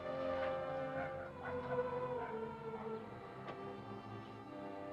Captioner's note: dog barks faintly